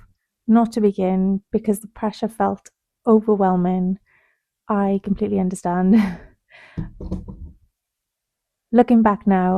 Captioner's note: sighs and gasps